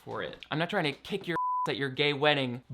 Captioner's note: beep